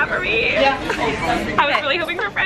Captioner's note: laughing